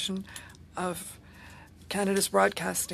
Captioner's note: speaking French